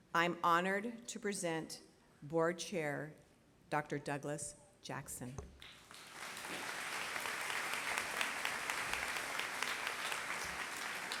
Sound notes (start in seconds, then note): 5.6 applause